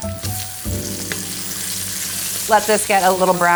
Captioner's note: grinder cracking; food sizzling